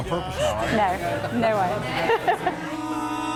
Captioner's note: giggles; mood music playing